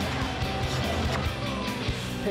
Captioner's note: "mwah!" kissing noise